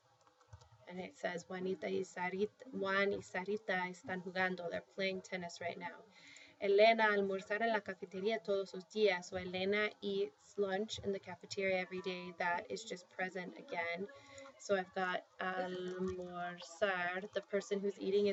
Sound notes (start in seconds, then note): 1.5 speaking spanish; 6.2 speaking spanish; 15.6 spanish